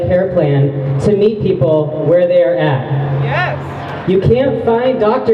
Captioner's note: crowd member shouts "yes!"